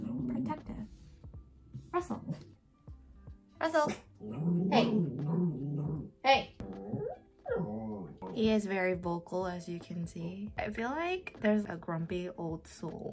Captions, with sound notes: protective. Russel. Russell. (incomprehensible dog language) Hey! (cutest dog yawn) He is very vocal as you can see. I feel like there's a grumpy old soul.